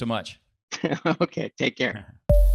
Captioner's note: chuckles